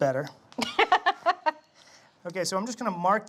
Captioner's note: laughs